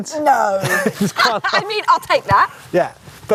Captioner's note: both laughing